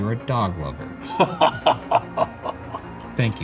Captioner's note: laughing